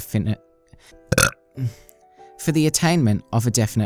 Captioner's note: burps